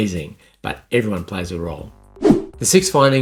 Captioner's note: scene change whooshing